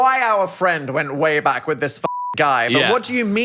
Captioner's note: beep